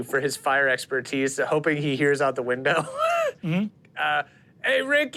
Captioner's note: chuckles